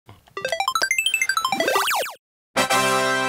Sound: video game trills and beeps; fanfare!

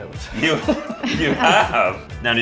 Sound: laughter

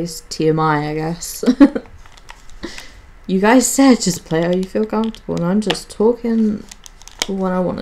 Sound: giggles

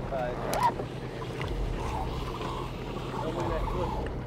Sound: rope whirring

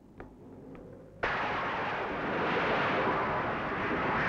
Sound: thunder crashing

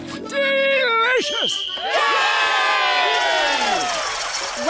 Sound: whistle blowing, cheering

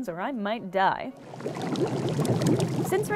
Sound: massive gurgle

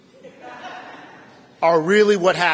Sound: laughter

